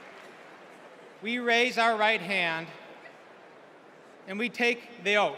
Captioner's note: applause